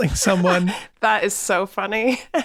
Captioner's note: laughing